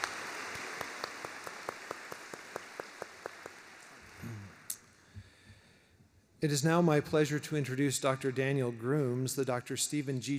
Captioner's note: applause